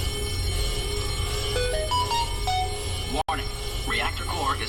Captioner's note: alarms & Bells; Samsung notification sound